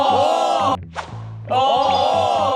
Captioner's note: whoosh